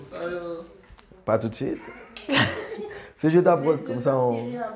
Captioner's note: rires